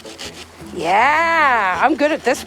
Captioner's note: scratching